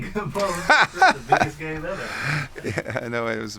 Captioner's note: laughter